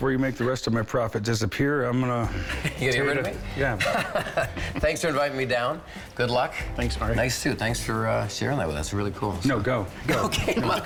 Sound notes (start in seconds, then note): 3.8 laughs; 10.0 laughing; 10.1 both laughing